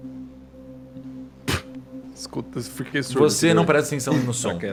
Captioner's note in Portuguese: Puff